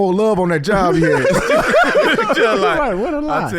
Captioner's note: laughing